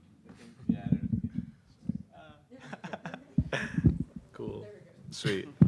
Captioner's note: chuckling